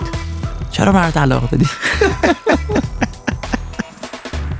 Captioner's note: laughing